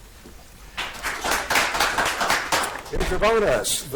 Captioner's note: audience applauds